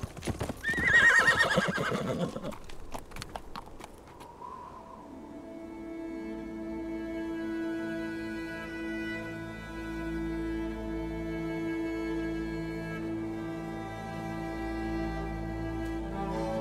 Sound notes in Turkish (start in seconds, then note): 0.6 At kişniyor; 6.7 Duygusal müzik